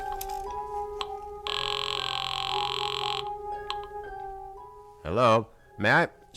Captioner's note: line ringing